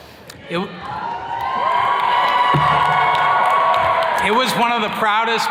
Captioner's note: attendees cheers and claps